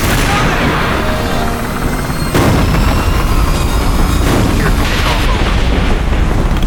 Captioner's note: devastation roaring; rescue helicopter approaching